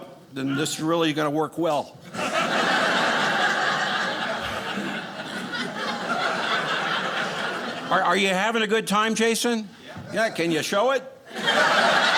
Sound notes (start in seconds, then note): 2.1 audience laughing; 11.3 audience laughing